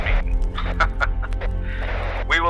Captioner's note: laughs